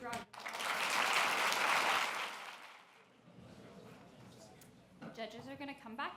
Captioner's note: applause